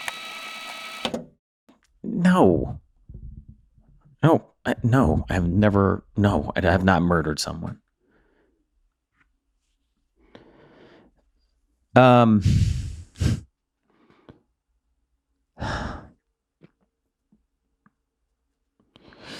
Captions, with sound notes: (tape rewinding) - No, no, no. I have never, no, I have not murdered someone. (breathes deeply) Um.